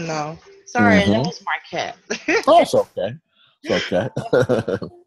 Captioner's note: chuckles